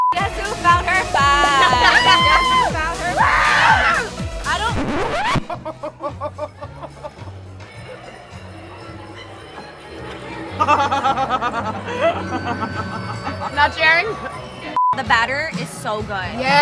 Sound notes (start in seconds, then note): 4.8 record stopping sound effect; 10.3 laughing